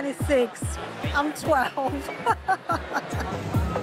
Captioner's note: laughs